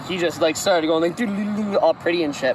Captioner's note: dude who thinks he's fucking sick noises